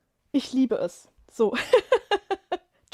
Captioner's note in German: gelächter